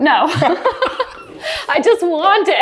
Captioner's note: laughing